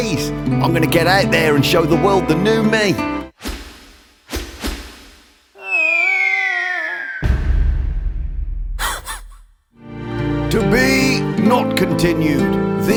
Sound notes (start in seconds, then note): 7.2 loud bang; 8.2 dog laughs